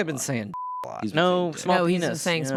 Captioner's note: beep